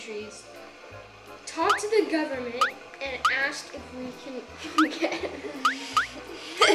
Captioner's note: laughs